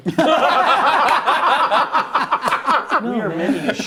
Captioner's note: laughing